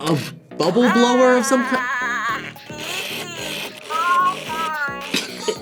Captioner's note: Furby babbles; laughs